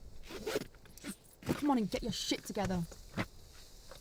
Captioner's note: zipper zips